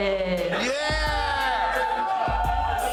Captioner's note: people cheering